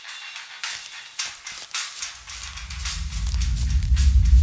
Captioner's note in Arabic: خطوات على الأقدام